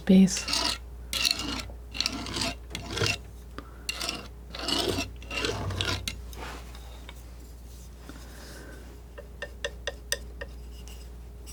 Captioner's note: scraping